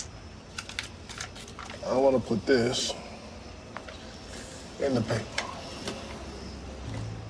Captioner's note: paper rustles